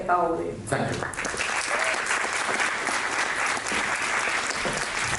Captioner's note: cheers and applauses